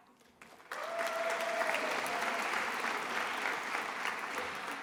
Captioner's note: attendees applauding